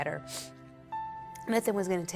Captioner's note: sniffling